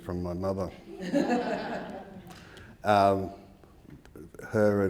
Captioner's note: audience laughing